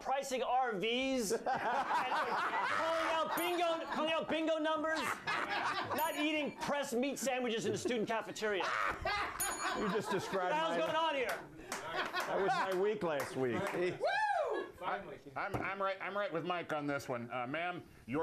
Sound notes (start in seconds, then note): 5.6 laughter; 9.3 bell rings